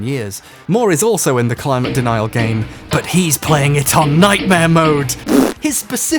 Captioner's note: faux shock; raspberry-fart